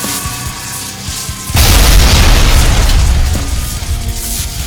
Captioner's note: scorpion beast shrieks; ground crashes